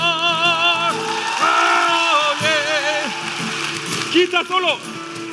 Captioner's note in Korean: 박수 및 환호